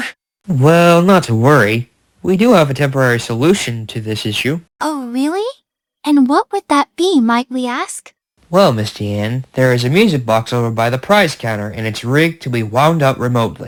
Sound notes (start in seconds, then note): 4.8 curiously